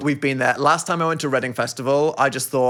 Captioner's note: none